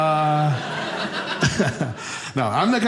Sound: audience laughing; audience laughs

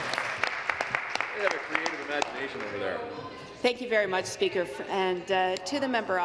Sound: applause

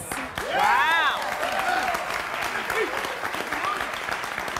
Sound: applause

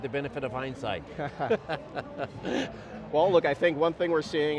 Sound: laughing

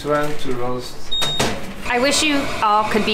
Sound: machine beeps

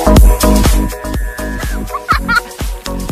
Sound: me: screams of horor

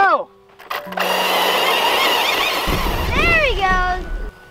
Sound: gears whirring

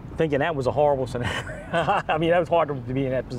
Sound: chuckles

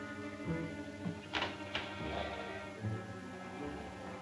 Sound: man snoring

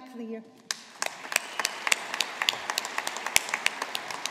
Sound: audience applauding

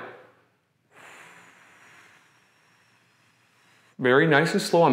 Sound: slow breathing

